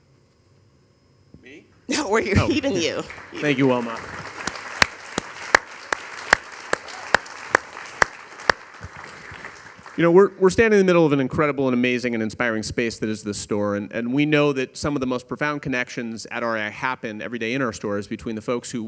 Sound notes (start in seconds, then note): 3.0 laughs; 5.3 audience applauding